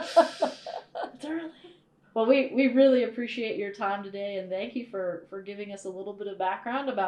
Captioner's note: laughter